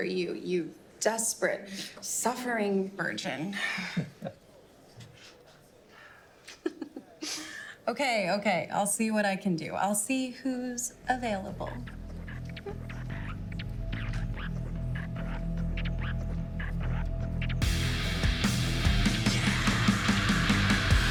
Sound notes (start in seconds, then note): 6.4 all laughing; 12.3 upbeat music